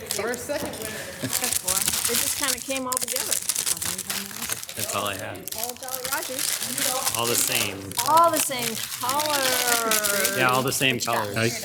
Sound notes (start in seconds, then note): 3.5 candies' wrappers scuffle